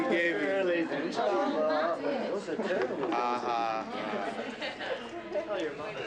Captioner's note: crowd chattering